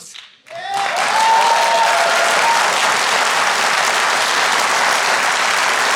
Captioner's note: audience applauding